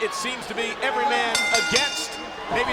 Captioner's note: bell dinging